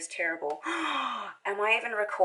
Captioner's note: gasps